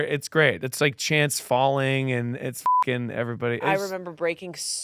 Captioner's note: beep